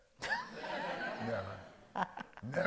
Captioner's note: all laugh